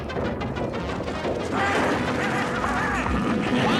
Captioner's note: whinnying